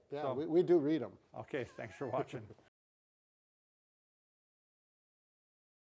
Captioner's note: laughing